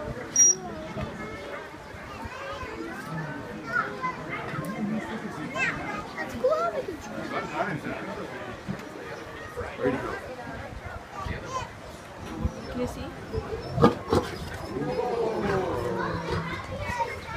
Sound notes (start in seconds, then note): 0.4 trainer blows high-pitched whistle for a fraction of a second; 3.1 various people in crowd talking; 14.7 lion growls and crowd says "Oh!"